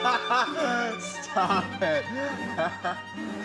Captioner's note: laughs